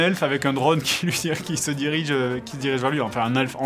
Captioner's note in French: rires